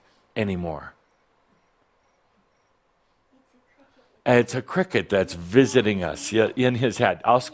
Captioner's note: someone’s cell phone rings with a cricket sound